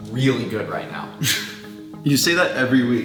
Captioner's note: laughs